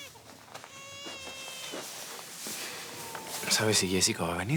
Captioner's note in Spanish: Llanto del bebé